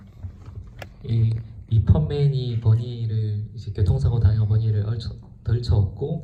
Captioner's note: speaks in foreign language